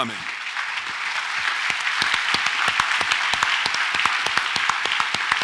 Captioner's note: audience applauds